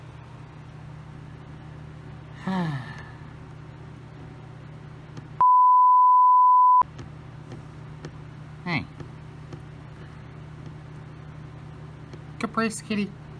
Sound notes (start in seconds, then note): 2.4 Caprice sighs